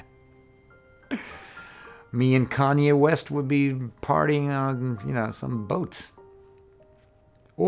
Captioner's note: laugh